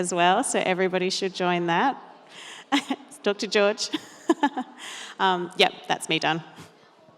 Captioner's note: laughs